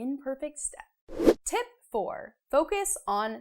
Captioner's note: frame whooshes